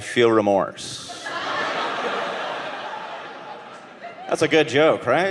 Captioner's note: audience laughing